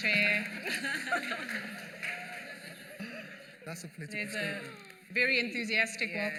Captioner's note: laughter